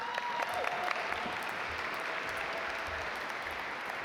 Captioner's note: audience applaud